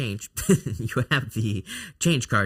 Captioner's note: chuckles